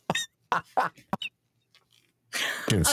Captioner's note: laughing